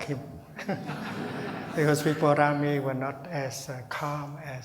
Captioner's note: laughing/laughter